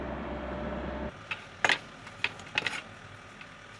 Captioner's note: distant excavator humming